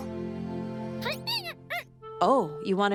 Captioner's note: squeaking